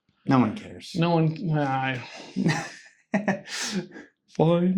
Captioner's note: sigh